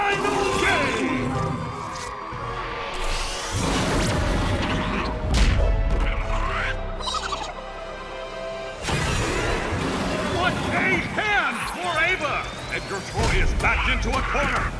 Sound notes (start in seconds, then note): 3.5 growls and grunts; 7.0 gibbering and growling